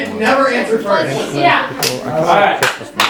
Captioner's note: laughter and talking; clap